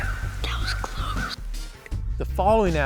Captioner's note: whispering